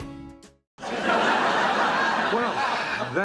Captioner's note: laughter